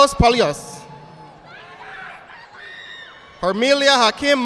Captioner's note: audience applauding